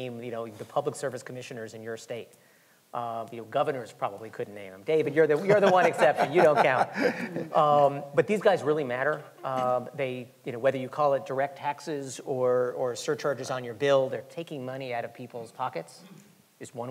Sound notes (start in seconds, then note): 5.3 laughing